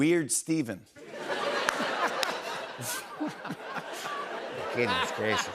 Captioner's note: laughter